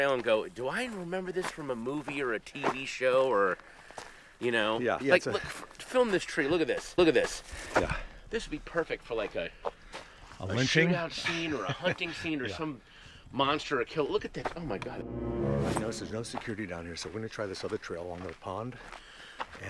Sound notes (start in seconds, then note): 11.0 laughing; 14.7 dramatic tones playing